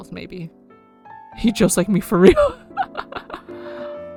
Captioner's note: laughs